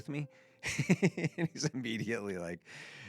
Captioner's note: laughs